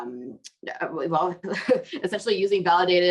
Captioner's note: chuckles